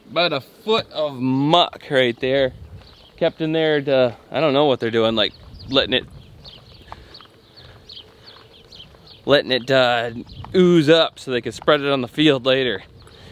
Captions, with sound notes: About a foot of muck right there. Kept in there to... I don't know what they're doing, like lettin' it... (birds chirping) Lettin' it ooze up so they can spread on the field later.